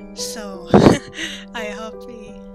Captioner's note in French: rire nerveux